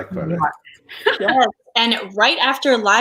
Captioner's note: laughs